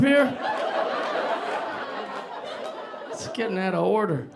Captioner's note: audience laughing